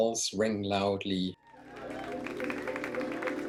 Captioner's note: applause